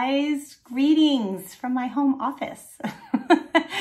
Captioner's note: chuckling